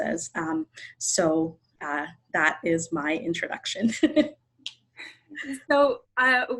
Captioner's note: laughs